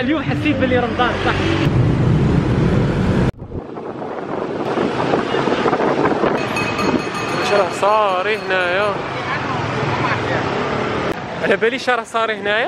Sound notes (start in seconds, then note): 4.0 engine sound